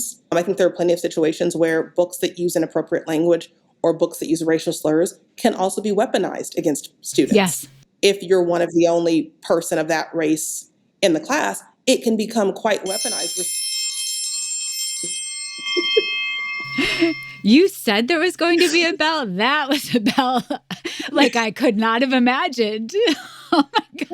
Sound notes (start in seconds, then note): 12.9 school bell ringing